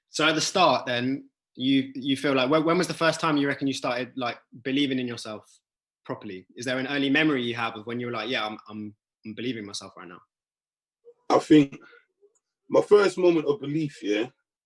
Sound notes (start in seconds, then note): none